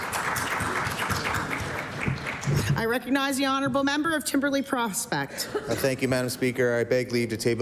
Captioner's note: applause